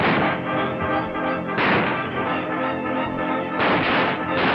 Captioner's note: dramatic orchestral music; guns firing